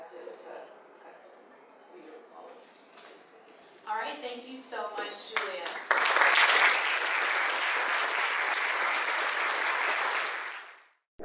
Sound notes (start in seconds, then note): 5.6 audience applaud